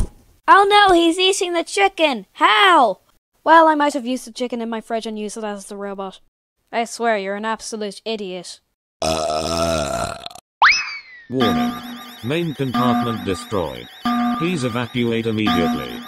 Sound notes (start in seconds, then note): 9.0 burp; 11.3 alarm